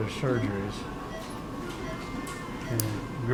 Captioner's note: beeping